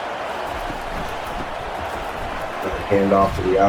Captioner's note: crowd Noises